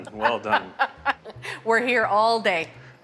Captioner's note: laughs